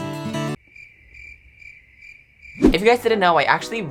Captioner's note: cricket sounds